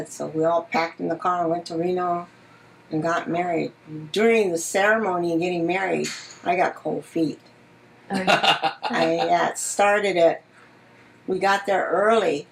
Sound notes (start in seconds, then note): 8.1 laughs